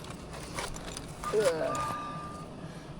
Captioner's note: grunting